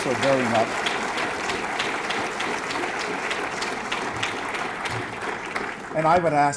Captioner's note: audience clapping